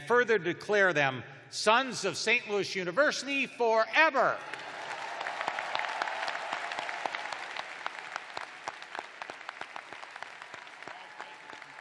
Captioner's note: cheers and applause